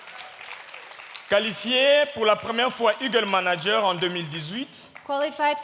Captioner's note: audience clapping; speaking in French